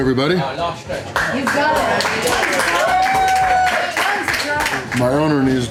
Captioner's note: crowd cheering and offering encouragement